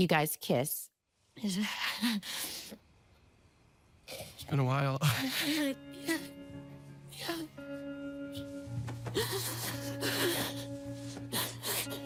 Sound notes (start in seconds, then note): 2.2 chuckles, sniffles; 6.2 chuckles; 8.9 sobbing